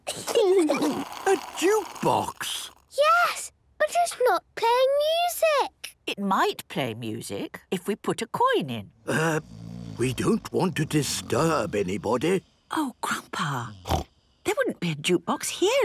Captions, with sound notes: - (children giggling) - A jukebox!? - Yes... But it's not playing music. - It might play music if we put a coin in. - Er... - (people snoring) - We don't want to disturb anybody. - Oh, Grandpa! Snort! There wouldn't be a jukebox here